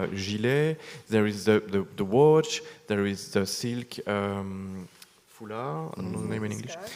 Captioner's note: speaks French